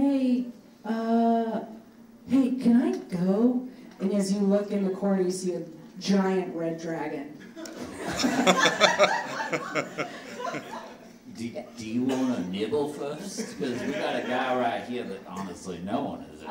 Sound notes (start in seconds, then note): 7.6 audience laughing